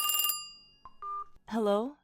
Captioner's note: phone ringing